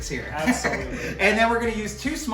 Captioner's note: laughs